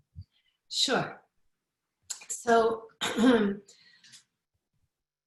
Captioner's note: coughs